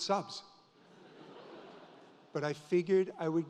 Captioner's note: audience laughs